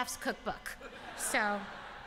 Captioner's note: laughter